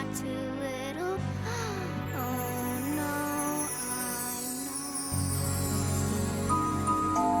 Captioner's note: sighs